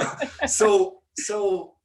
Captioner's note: laughing